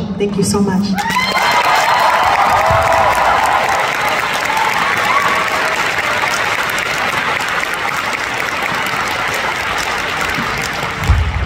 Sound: applause

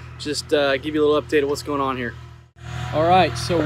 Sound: skid-steer engine roaring

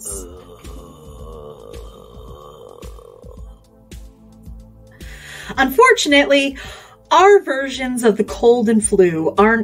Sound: groans

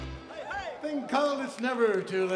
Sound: crowd applauds

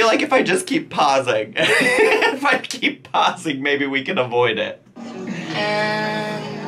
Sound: laughing

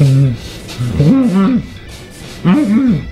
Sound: muffled "ok"

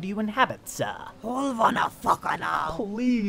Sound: speaking foreign language

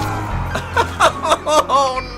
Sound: pained laughter

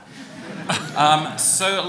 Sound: laughing

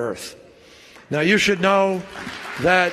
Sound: applause

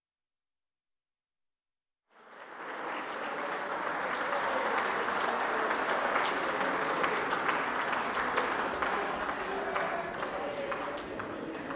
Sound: applause

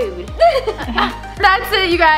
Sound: laughs

